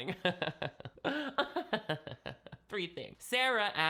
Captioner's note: laughing